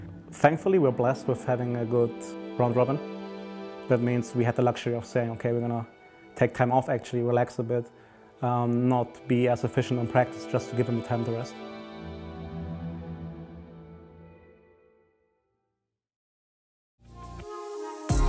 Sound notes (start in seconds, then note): none